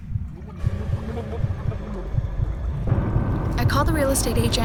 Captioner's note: gurgling